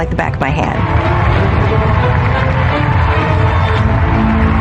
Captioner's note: dramatic music climaxes; cheering and applause